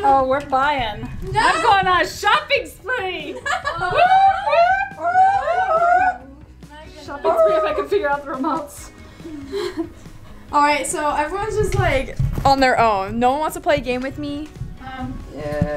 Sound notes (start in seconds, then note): 3.8 cheers